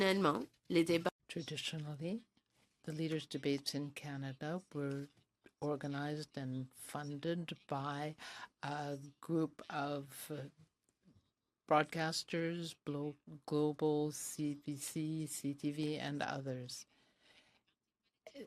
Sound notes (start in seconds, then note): 3.1 speaking french